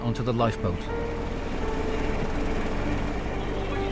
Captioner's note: helicopter whirring